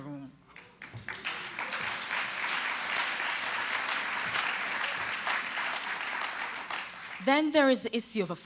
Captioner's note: applause